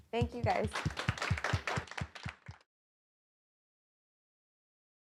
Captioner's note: applause